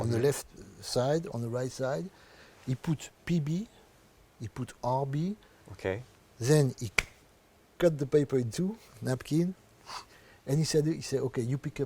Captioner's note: claps